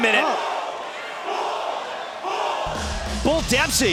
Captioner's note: crowd cheering